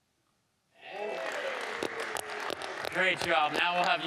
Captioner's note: audience applauding